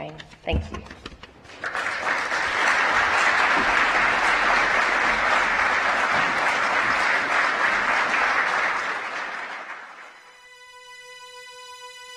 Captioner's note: applause